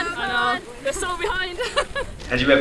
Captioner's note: laughs